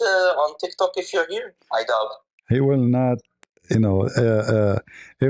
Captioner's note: ketawa